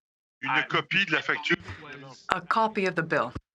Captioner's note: speaking French